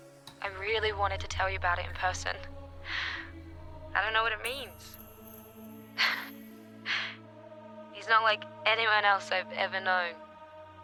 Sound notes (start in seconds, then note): 2.8 breathes deep; 5.7 exasperated